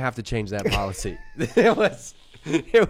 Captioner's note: laughs